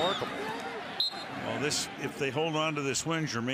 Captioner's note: whistle